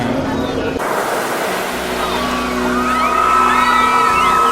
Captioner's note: ocean waves crashing; excited people cheering